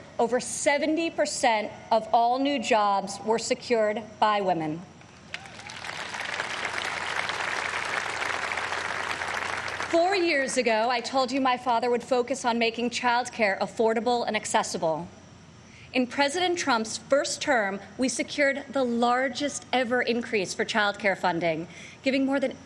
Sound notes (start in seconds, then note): 8.1 applause